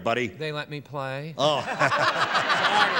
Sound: laughter

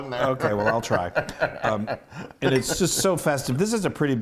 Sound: laugh

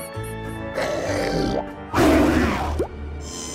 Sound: growls; roars

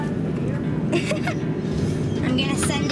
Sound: laughs

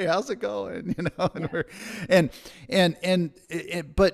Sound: laughs

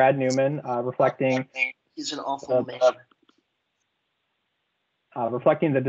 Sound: microphone feedback

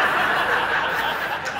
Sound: laughter

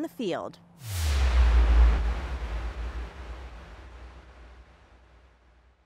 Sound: whooshing bass sound plays

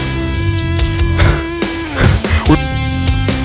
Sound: heavy breathing

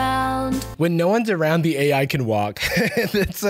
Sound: laughs

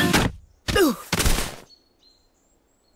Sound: groans

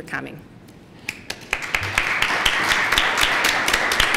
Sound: applause

